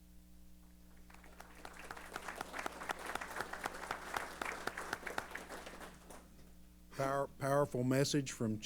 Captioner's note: applause